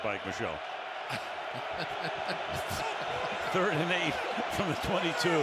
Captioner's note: laughs